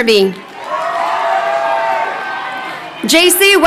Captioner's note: crowd cheering